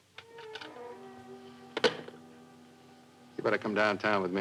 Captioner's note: phone clicking